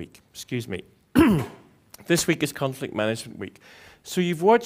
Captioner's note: cough